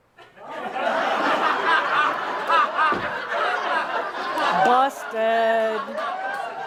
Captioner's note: laughter as glares into the audience